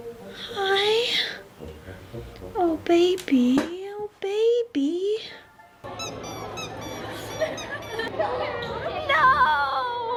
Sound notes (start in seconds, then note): 5.9 squeak squeak squeak squeak